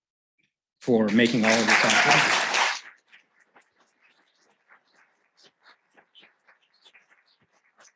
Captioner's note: applause